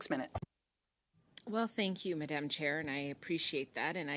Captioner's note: speaking french